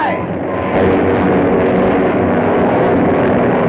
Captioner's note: plane whirring